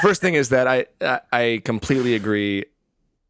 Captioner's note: all laughing